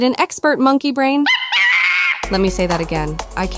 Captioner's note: chimp screams